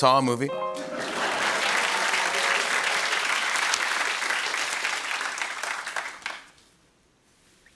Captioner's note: laughter and applause